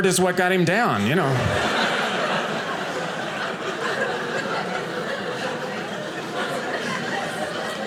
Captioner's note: audience laughing